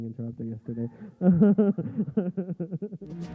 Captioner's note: laughter